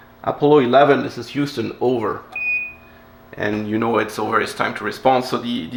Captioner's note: lower beep